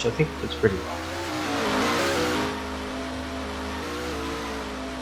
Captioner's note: fluctuating rev sound